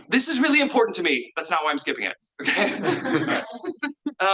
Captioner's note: laughs